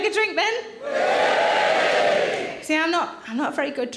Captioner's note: audience cheering